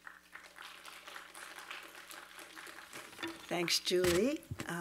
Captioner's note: attendees applaud